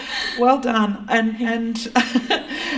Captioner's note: laughter